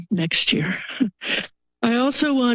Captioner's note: chuckles